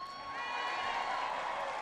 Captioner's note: applause